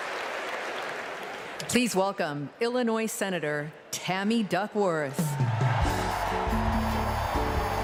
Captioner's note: applause